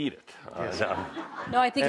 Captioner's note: laughter